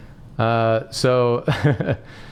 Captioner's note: laugh